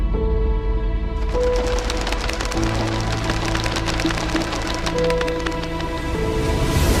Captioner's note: sound of birds' wings